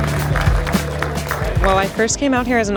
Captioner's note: audience applauds